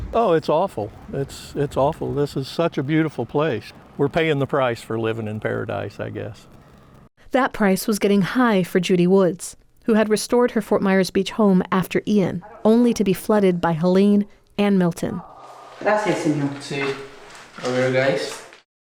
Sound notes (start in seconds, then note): 15.8 speaking Spanish